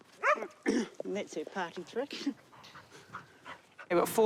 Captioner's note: chuckles